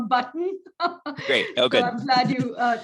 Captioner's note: laughing